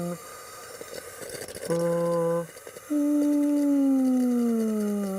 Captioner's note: vocalizing; inhaler hissing